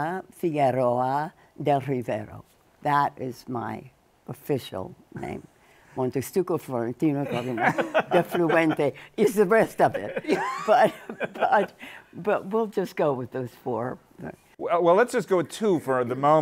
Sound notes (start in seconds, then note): 7.8 speaking in foreign language